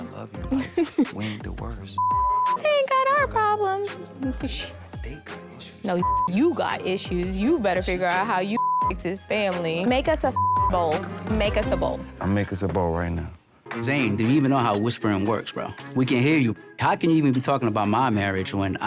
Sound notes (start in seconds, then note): 1.9 beep; 6.0 beep; 10.3 beep